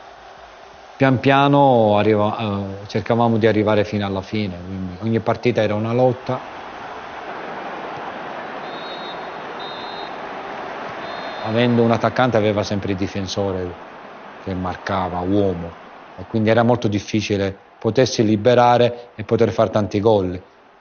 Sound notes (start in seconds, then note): 8.5 whistle blows